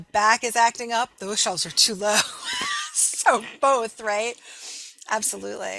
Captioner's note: laughing